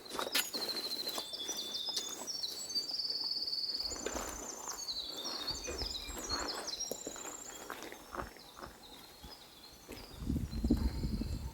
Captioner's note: bird song